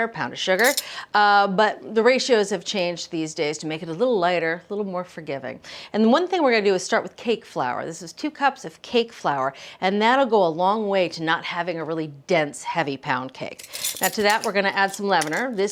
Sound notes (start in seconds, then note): none